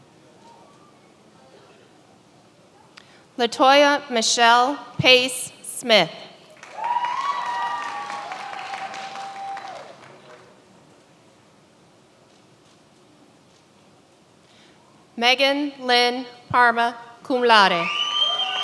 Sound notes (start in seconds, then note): 6.4 many applauding